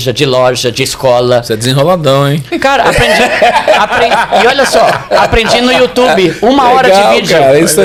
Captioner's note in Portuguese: risadas